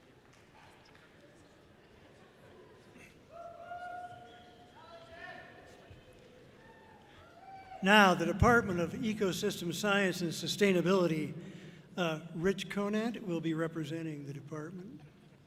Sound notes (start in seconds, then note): 2.9 audience cheering loudly; 5.2 person shouts encouragingly